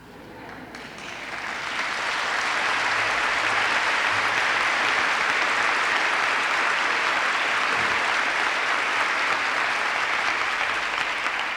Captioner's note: applause